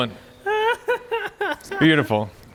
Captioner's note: laughs loudly